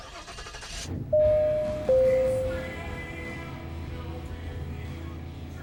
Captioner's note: door entry bell dinging